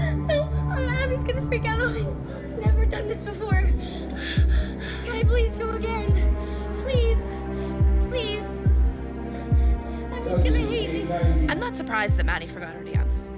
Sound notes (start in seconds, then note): 4.1 breathing rapidly